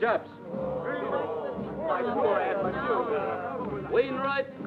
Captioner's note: crowd grumbling